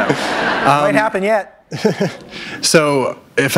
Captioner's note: laughter; chuckle